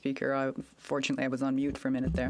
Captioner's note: speaking in French